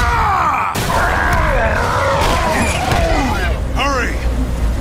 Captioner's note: grunts; roars